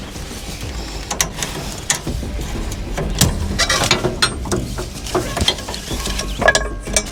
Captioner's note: metallic rustling of ratchet straps being released